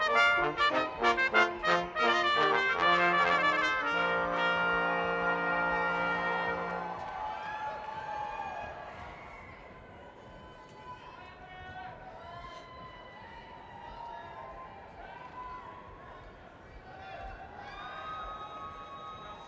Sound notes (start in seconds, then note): 7.2 crowd cheering